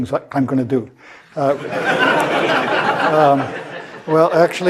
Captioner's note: laugh